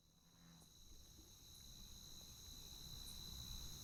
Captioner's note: cicadas buzzing